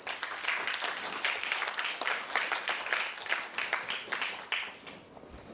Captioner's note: applause